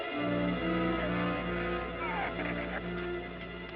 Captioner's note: shrews squeaking